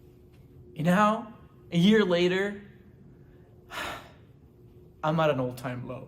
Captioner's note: sighs